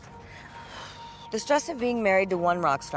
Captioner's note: sighs